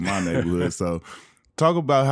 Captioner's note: laughing